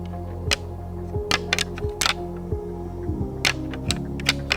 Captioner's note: clacking noise